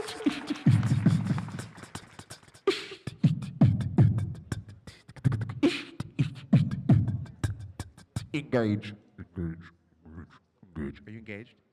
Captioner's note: applause